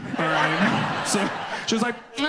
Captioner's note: audience laughs